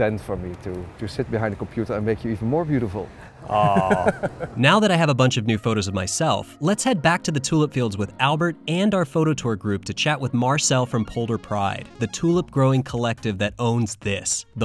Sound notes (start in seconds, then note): 3.4 laughing